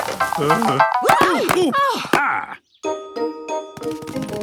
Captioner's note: exclamations; groaning